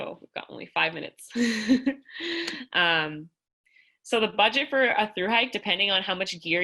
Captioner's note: laughter